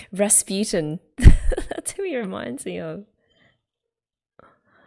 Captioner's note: laughs